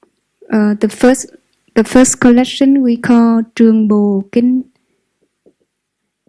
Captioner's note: Vietnamese